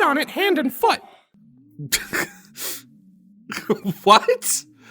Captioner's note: Max laughs